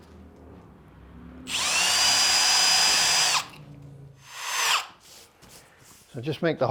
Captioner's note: drill noise